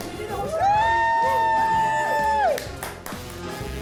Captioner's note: group cheers; upbeat music